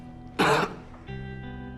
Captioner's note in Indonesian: batuk